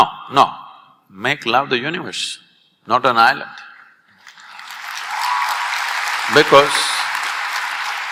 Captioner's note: applause